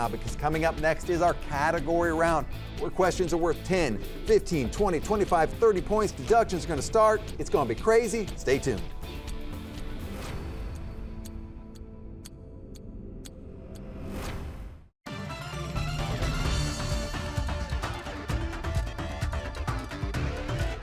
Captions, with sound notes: because coming up next is our category round where questions are worth 10, 15, 20, 25, 30 points. Deductions are going to start. It's going to be crazy. Stay tuned. (timer ticks) (dramatic tone) (upbeat music)